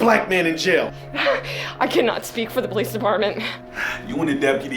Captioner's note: laughing